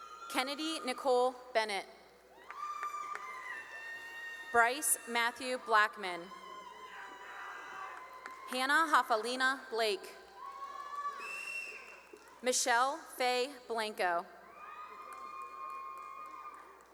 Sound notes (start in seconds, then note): 0.0 cheering; 2.3 cheering and applause; 6.4 cheering and applause; 10.2 cheering and whistling; 14.4 cheering